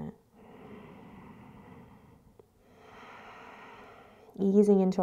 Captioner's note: deep breathing